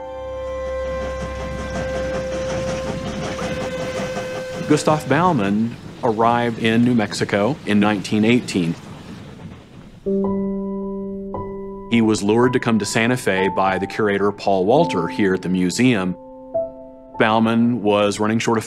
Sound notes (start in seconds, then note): 0.2 train chugging; 3.4 whistle blows